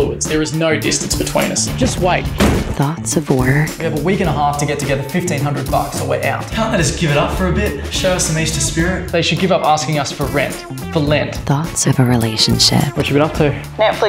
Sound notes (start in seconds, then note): 1.8 door slams